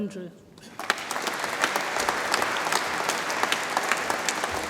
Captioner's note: audience applauds